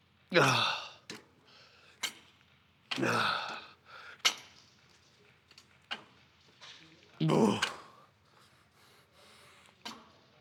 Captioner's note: grunting